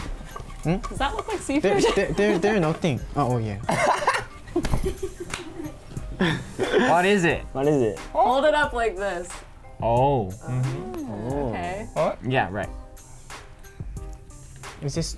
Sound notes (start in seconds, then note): 1.7 laughing; 3.6 laughs